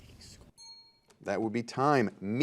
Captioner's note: ding